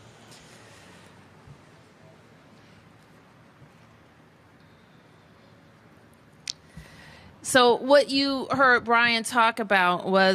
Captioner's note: moment of silence